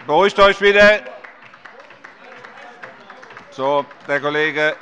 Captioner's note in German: Beifall bei der LINKEN